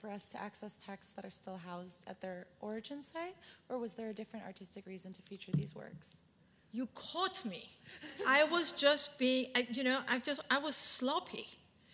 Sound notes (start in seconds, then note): 8.0 woman 3 laughs